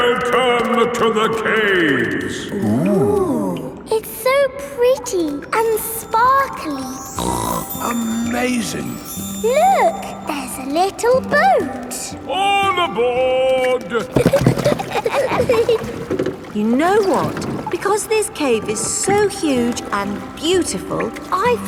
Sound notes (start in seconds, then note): 7.2 snorts; 13.9 giggling